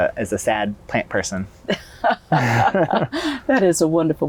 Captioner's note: laughter